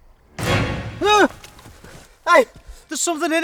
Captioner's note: Sean shrieks